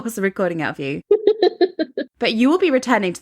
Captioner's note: laughs